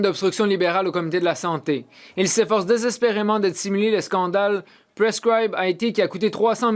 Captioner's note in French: voix de l'interprète